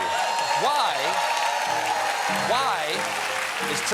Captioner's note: cheers and applause